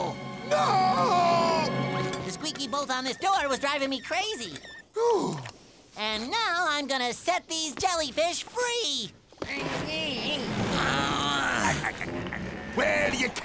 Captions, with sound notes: Nooo! The squeaky bolt on this door was driving me crazy. [sighing] And now I'm going to set these jellyfish free! [grunting] [chuckling] Well, you can't.